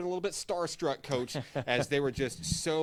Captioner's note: laughs